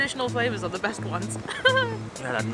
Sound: nervous laughter

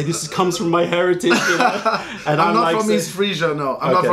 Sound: laughter

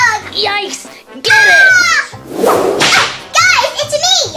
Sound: assistant screaming

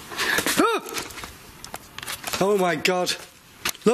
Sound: screaming

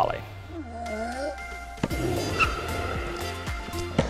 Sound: groans while hitting the ball; upbeat music

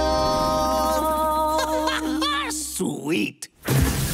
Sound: laughing

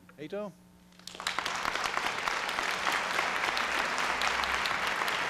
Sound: applause

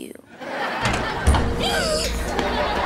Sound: gasping

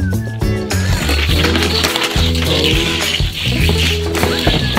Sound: aggressive sawing; upbeat music

